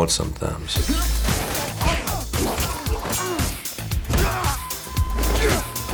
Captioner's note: men grunting and crashing